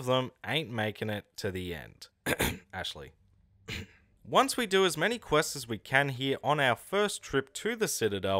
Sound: cough

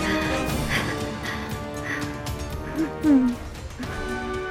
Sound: nervous Breathing

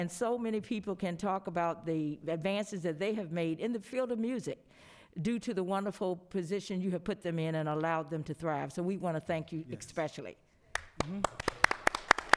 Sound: applause

